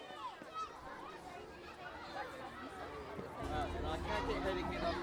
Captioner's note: kids talking